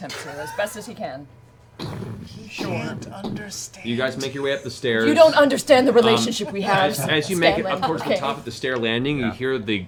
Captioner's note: stomping